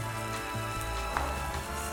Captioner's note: gratin sizzling